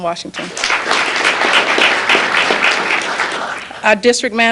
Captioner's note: applause